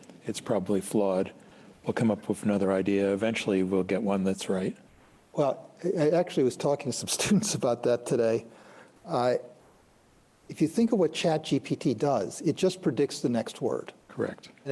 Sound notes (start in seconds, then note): 7.1 chuckles